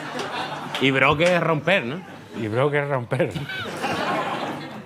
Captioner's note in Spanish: Risas; riendo